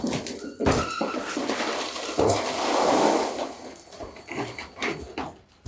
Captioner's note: concrete whooshing